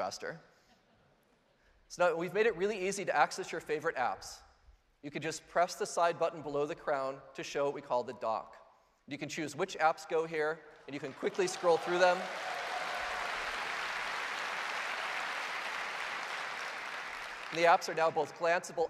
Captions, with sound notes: So now we've made it really easy to access your favorite apps. You can just press the side button below the crown to show what we call the Dock. You can choose which apps go here, and you can quickly scroll through them. (Applause) The apps are now both gl glanceable and interactive,